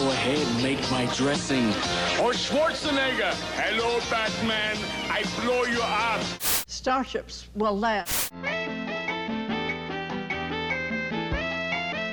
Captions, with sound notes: Go ahead, plate my dressing. Or Schwarzenegger? (Austrian accent) Hello Batman, I blow you up. (static) - Starships will land. (static) (easy listening music)